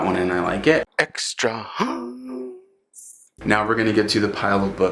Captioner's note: in funny voice "ETRAHAAAAASSSSS"